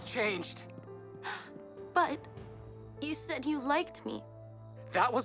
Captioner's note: Mischa gasps